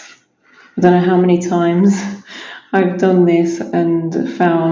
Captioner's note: laughs